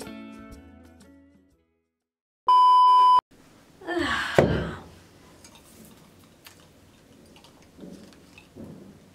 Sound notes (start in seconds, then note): 0.0 relaxing hawaiian music continues; 2.5 beeping noise